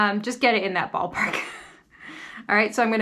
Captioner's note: chuckles